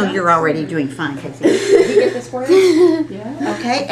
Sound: laughter

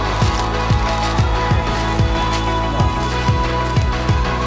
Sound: leaves crunching

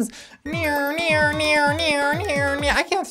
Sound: imitating robot

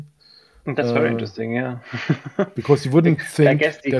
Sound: laughs; faintly speaks

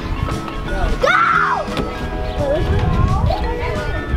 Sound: yelling

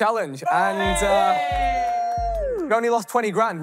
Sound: contestants cheering

